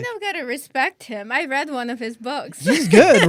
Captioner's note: laughs